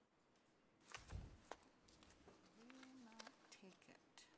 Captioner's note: papers rustling